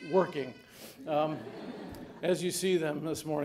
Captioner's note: audience laughing